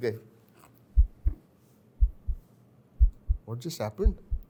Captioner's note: heartbeats